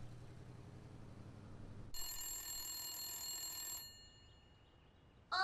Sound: phone ringing

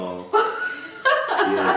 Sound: hahaha

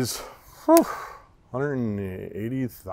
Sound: phews

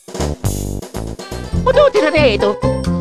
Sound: italian Gibberish

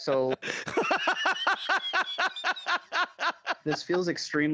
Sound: laughing

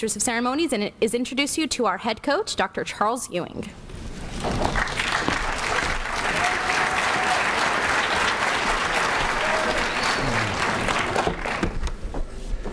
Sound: applause

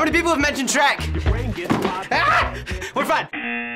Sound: object clattering; buzzer

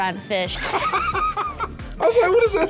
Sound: both laugh

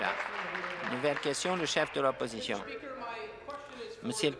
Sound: applause

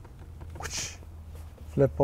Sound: whooshing

